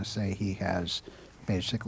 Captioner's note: speaking Italian